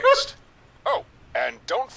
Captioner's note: laughing